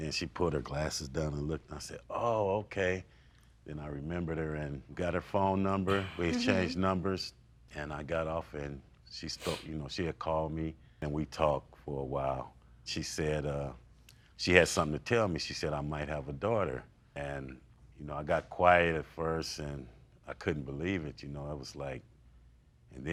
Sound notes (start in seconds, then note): 9.4 sobbing